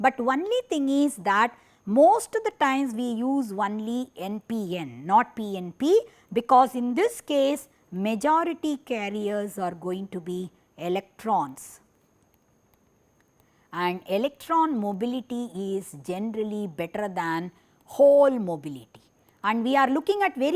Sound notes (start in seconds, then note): 16.0 fire